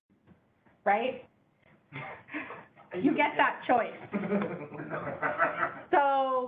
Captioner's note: laughing